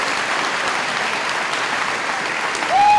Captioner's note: audience applauding